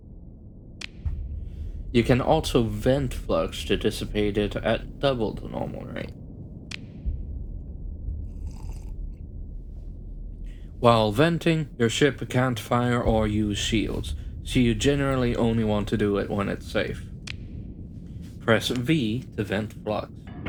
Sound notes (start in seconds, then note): 8.3 coffee sip